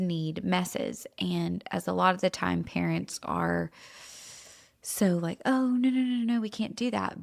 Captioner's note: inhales